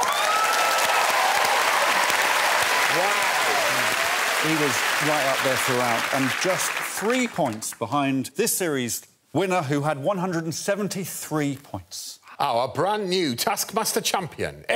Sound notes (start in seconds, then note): 2.2 cheers and applause